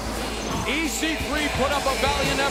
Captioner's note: bell ringing